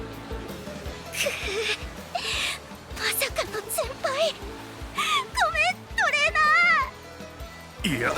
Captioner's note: ugh